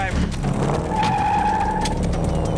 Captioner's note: tires squeal